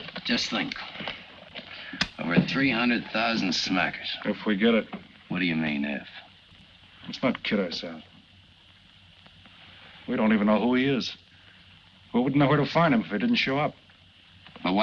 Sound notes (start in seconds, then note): none